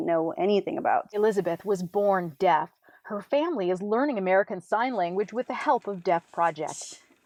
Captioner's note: voiceover